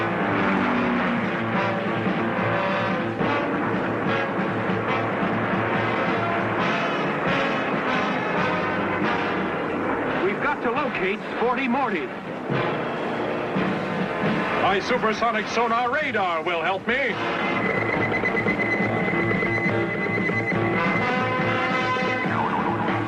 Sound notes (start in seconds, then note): 0.2 Battillac roaring; 0.2 dramatic music; 3.8 Battillac zooming; 3.8 dramatic music; 12.0 dramatic music; 17.4 sonar beeping; 22.8 music boinging